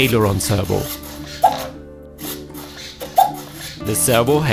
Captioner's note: servo making strange sounds